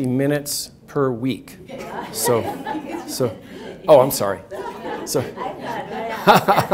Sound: laughs

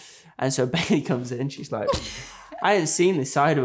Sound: laughing

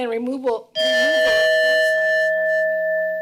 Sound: timer beeps

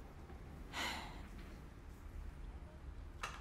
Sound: sighing

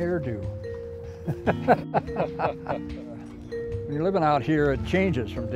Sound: laughs

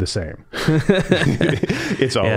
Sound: both laughing

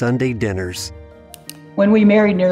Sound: mouse click

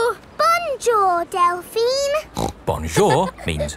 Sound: snorts

